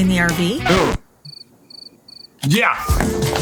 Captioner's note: record scratches; cricket chirping; dial tone beeps